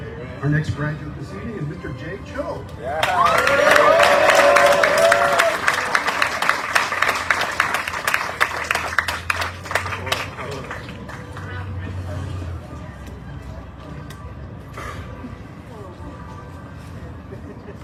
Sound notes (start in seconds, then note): 2.8 audience cheering, applauding